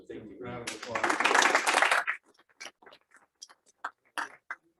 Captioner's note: applause